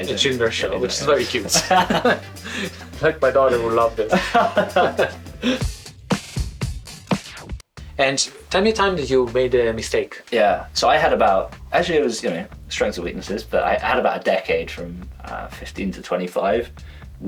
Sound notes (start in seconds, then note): 1.1 laughs; 5.7 upbeat music